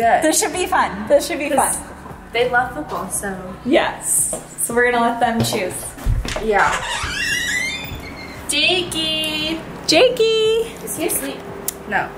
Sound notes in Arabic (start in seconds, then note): 6.1 صرير الباب